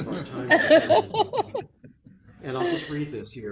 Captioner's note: laughter